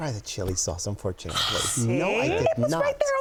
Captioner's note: gasps